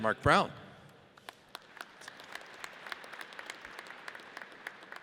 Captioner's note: audience applauds